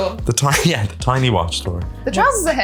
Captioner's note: laughs